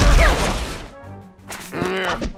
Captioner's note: growls